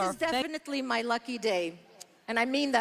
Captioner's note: speaking French